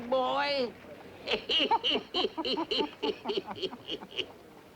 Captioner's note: all laughing